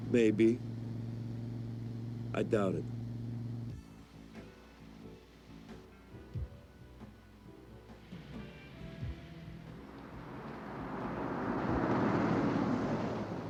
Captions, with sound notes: - Maybe. I doubt it. (mellow rock music) (engine revving)